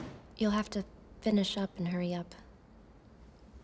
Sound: none

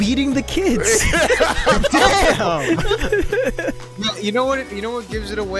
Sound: group laughing

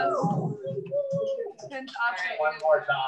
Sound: cheering

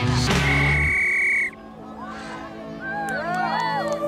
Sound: bell whistling

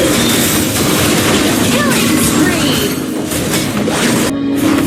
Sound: game Battle Sound Effects

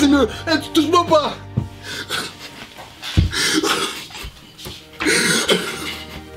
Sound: cries 😭

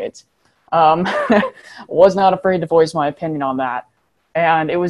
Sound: chuckles

